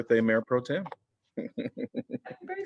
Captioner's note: laughter